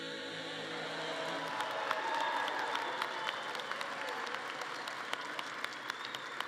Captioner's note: audience cheering and clapping